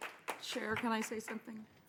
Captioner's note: applause